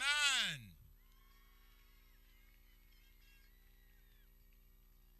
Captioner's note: people cheering